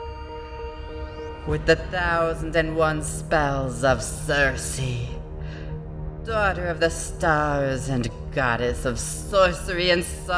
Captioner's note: Epic voice